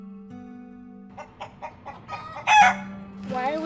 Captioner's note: gentle music; chickens clucking